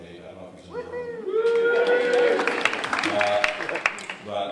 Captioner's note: cheering and applause